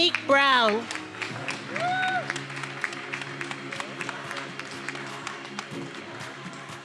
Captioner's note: attendees applauding and cheering; upbeat music